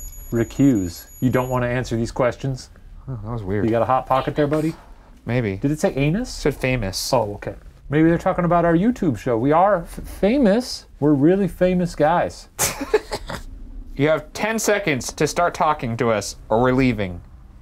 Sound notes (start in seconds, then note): 12.5 laughing